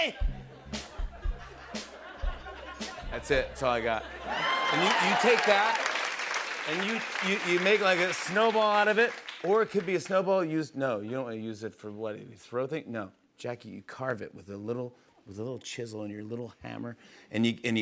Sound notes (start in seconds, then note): 4.2 laughter